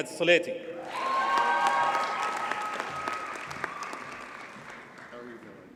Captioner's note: audience cheers and applauds